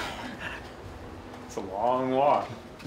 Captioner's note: laughing and heavy breathing from off-camera